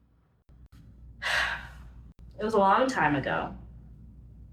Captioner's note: sighs